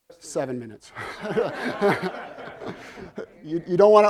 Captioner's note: laughter